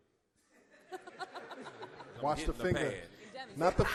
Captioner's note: laughs